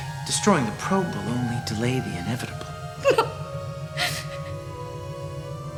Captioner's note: sobs